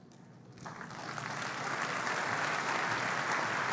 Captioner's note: applause